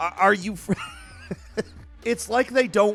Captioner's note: laughing